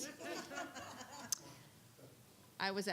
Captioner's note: laughing